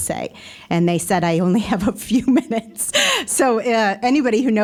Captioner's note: laughing